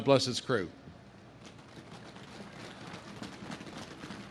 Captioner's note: audience claps